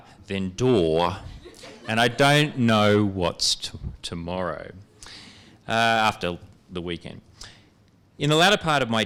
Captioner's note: laughter